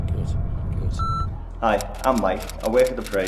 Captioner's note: beep